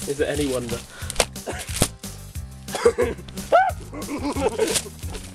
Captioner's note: screams